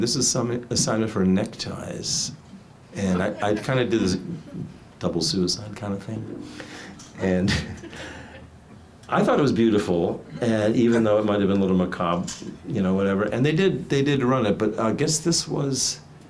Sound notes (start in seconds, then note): 3.1 audience laughs; 7.3 laughing